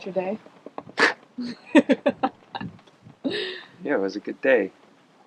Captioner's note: both laughing